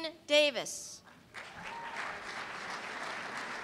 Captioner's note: applause